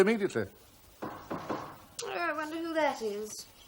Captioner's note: knocking